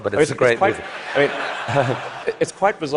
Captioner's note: laughter